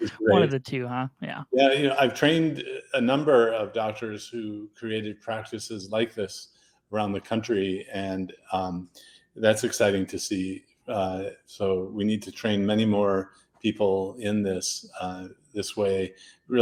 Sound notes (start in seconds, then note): 1.6 laughs